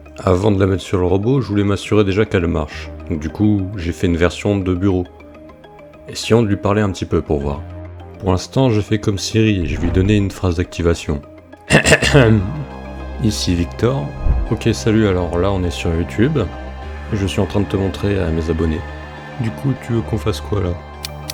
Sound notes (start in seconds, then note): 11.7 violent throat clearing; 21.1 tick tick tick